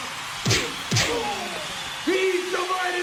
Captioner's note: punching